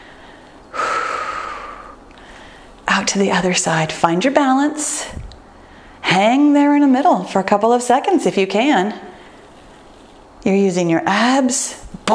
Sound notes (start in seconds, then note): 0.6 exhales deeply